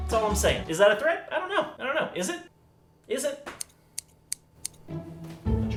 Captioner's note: snipping sounds